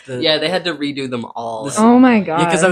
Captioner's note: laughing